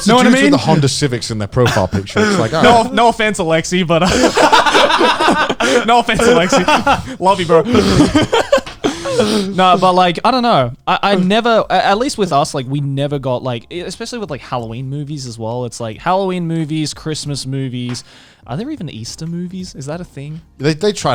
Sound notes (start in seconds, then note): 3.9 all laughing